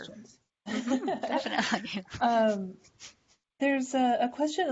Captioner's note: laugher